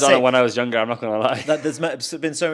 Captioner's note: chuckles